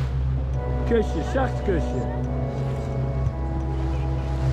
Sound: speaking foreign language

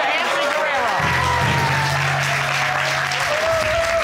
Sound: audience cheers

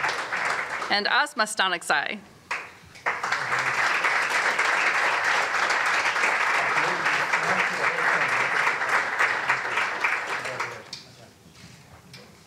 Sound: applause; applause

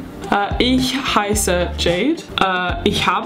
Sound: speaking in foreign language

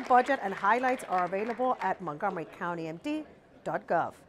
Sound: applause

